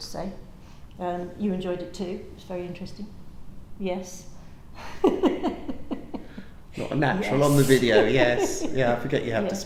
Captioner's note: laughter